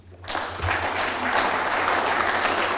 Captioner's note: applause